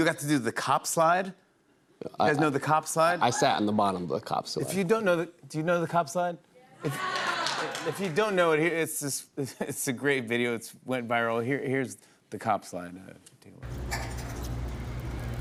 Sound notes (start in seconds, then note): 6.8 cheers and applause